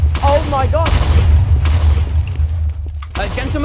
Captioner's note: more explosions